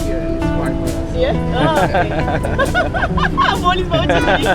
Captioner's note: laugh